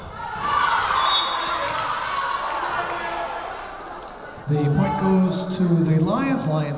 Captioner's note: crowd cheering; whistle blowing